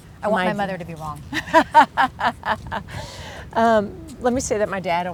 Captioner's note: laughing